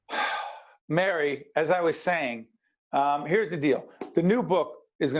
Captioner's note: audible sigh